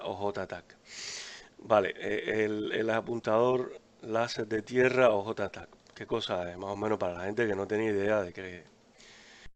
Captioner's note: in spanish